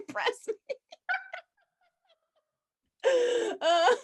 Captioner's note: both laughing